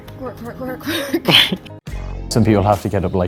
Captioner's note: laugh